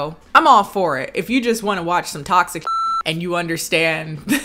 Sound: beep

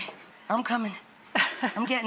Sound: laughs

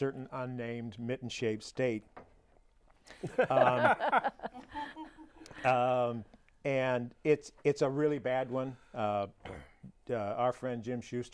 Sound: laughing

